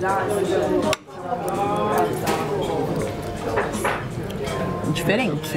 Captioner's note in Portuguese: ambiência de restaurante